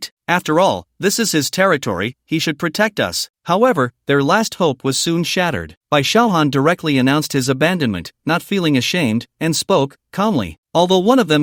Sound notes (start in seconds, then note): 10.1 calmly